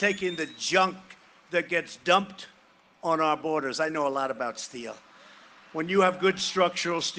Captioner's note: cheering and applause